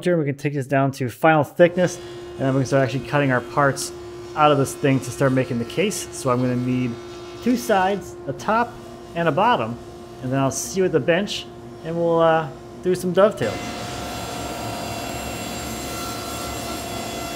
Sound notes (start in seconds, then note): 13.8 machine whirring